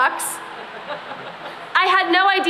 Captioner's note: laughter